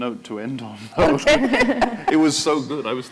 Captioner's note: laughter